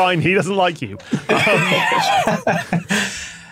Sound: wheezes

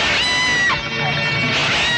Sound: yelling

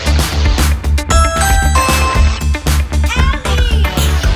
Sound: doorbell rings

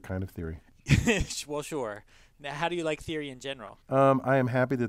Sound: laugh

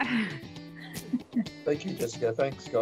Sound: chuckles

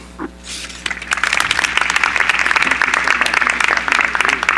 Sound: applause

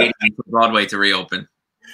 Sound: chuckles

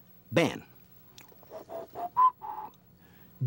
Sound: whistles

